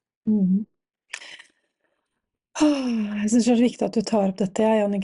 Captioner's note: sighs